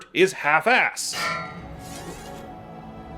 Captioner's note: metal clank